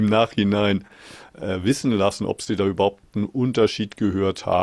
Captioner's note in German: none